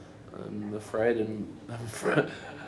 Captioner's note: chuckling